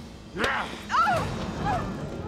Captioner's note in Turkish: Çığlık sesi